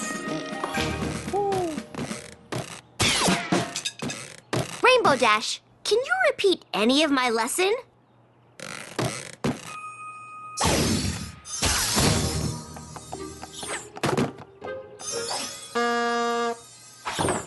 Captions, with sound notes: Rainbow Dash! Can you repeat any of my lesson? (poof!) (crash) (horn honk)